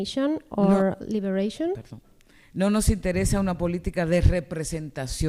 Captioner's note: speaking spanish